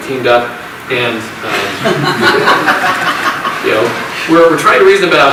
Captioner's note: audience laughs